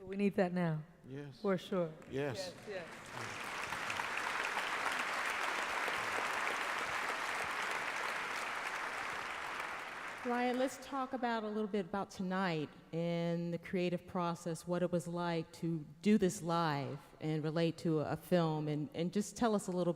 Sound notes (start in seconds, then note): 4.0 applause